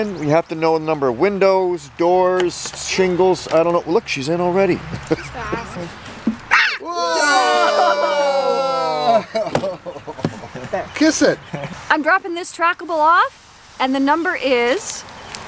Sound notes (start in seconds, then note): 6.5 a scream